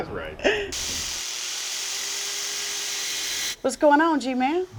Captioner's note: laughs; power tools whirling